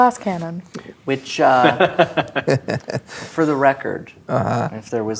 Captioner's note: laughing